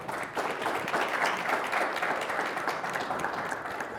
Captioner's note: applause